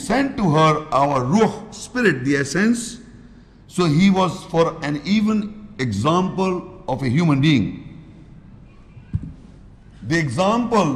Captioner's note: Arabic